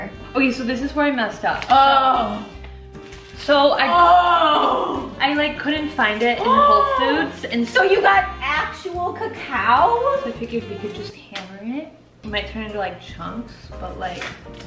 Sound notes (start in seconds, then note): 1.8 groaning; 4.6 continues groaning